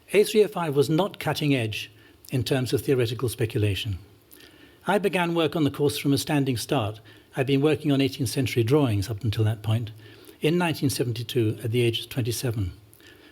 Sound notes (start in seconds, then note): none